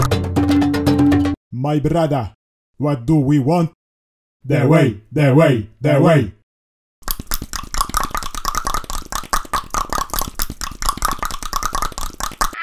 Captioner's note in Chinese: 大量彈舌